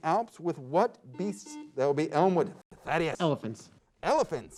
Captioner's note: beep